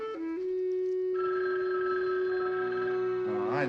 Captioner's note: phone ringing